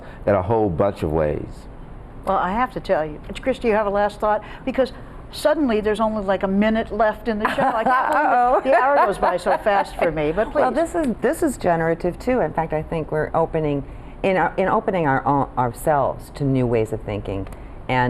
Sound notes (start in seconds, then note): 7.5 laughs